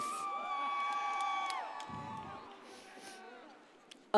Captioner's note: audience cheers